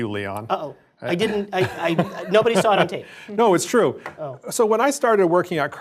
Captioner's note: laugh